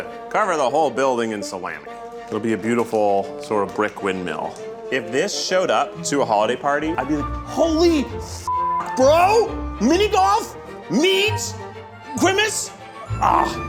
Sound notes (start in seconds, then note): 8.5 beep